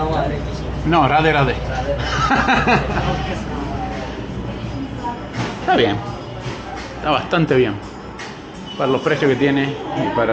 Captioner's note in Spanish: risas